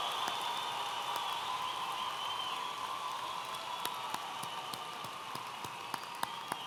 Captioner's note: audience applauding and cheering